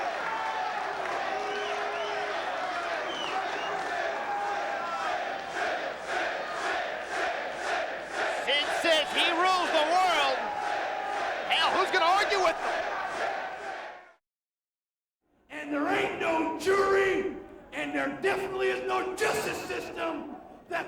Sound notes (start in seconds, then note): 1.4 crowd chants "Sid"